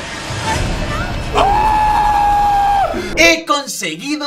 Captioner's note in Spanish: Grita